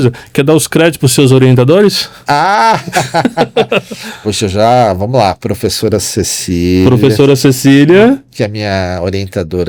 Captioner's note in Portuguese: risadas